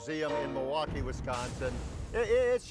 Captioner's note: flames sizzle